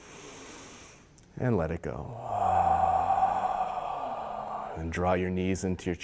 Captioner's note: loud exhaling